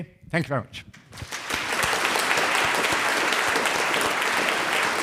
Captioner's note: audience applauding